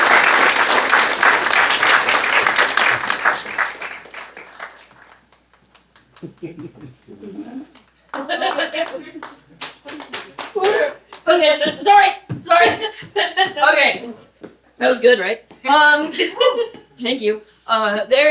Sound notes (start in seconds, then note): 0.0 applause; 4.8 audience laughter; 4.8 continued applause; 15.6 audience laughter